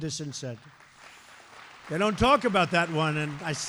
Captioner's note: applause